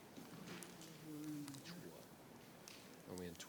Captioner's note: speaking faintly